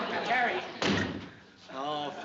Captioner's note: door slam